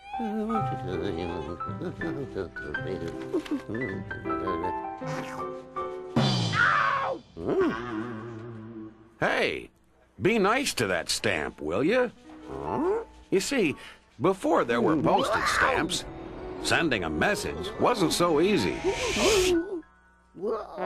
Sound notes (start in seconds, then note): 6.3 bang!